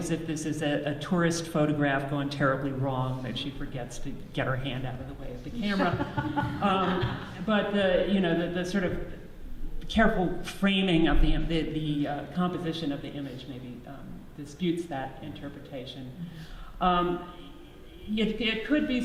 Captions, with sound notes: if this is a tourist photograph gone terribly wrong that she forgets to get her hand out of the way of the camera [audience laughs] but, you know, the sort of careful framing of the composition of the image maybe disputes that interpretation. It could be